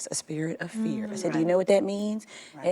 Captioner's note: agreeing mumbles